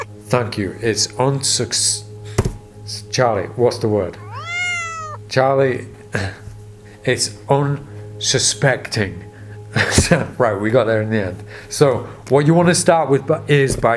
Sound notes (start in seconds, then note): 0.0 cat meows; 0.0 stutters; 4.1 cat meows